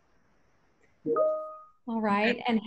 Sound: computer notification rings

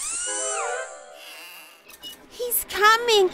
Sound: whirring; hinges creaking

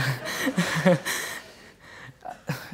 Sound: laughter

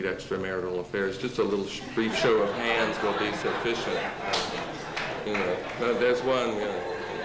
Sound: laughter

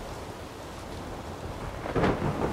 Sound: thunder rumbling

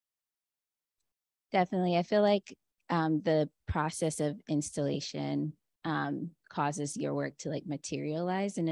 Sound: Chineze

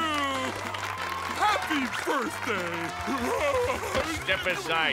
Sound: applauding

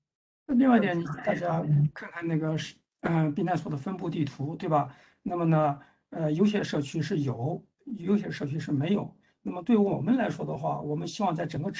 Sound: speaks in Mandarin

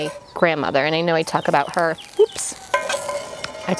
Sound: tortilla sizzling

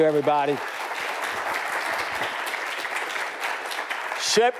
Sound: audience applauds

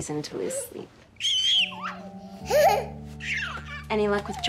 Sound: baby screams happily

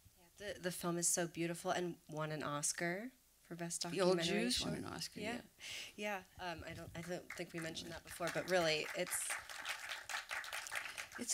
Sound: applause

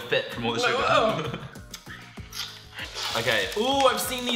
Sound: laughter

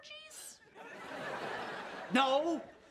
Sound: laughing

